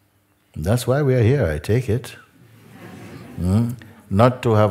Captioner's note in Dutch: gelach